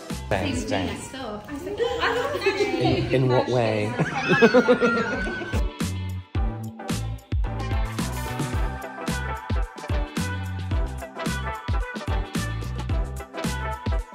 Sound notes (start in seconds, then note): 4.0 wheezing Laughter